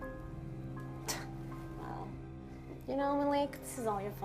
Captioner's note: scoffs